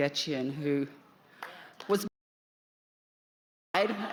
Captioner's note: applause